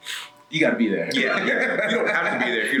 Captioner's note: laugh